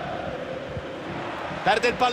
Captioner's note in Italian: Applauso